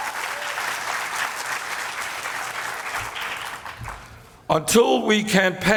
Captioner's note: applause